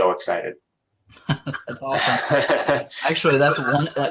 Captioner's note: laughs